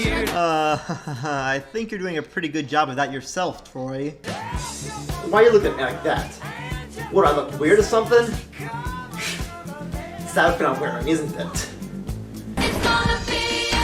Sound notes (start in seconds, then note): 0.3 laughing; 8.4 scoffs